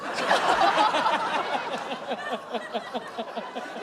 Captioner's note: laughter